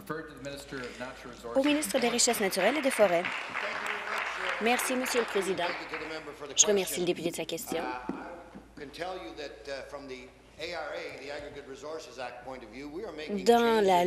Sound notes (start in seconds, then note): 0.0 applause; 6.4 applause